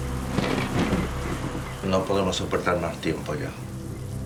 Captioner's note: man speaking Spanish